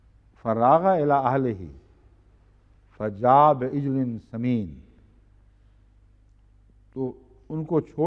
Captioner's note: Arabic